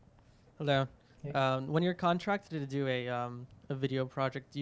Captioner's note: voiceover